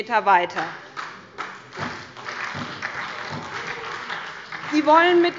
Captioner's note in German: Beifall bei der SPD